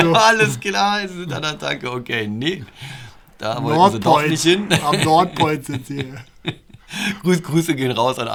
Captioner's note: laughter